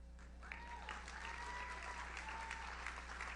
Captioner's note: audience cheers; audience applauds